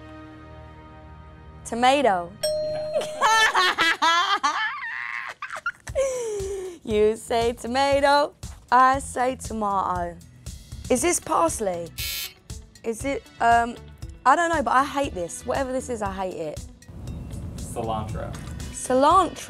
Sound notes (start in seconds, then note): 3.2 laughing; 11.9 buzzer buzzing